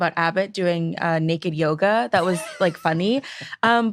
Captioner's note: chuckles